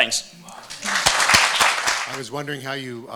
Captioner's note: audience applauding